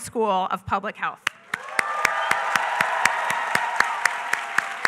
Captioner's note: applause